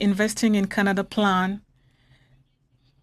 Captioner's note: speaking French